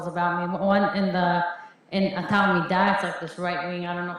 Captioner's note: Hebrew